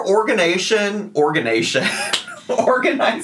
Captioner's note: chuckles